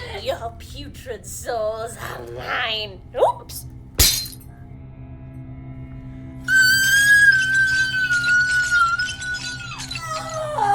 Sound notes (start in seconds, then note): 4.0 medal clanks; 6.5 Wilhelmina yelling